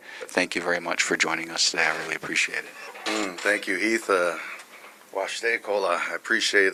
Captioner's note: speaking native language